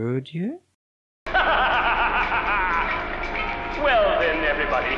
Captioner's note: evil laughter from voice in elevator